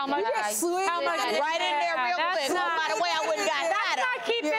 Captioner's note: women chatter